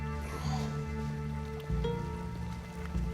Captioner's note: groans